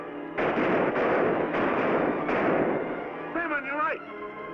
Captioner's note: gunshots bang